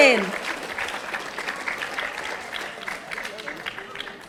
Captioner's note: audience applauding